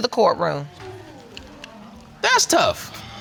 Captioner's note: audience murmuring